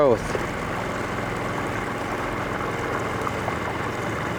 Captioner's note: boat motor burbling